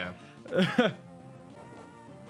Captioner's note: chuckles